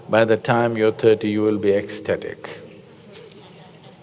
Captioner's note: laughs